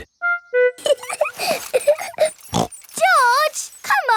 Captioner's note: laughs and snorts